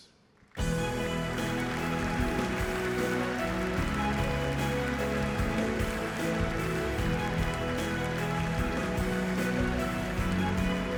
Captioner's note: applause